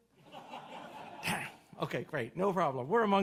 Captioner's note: audience laughs